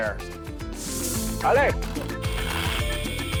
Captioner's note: speaks Spanish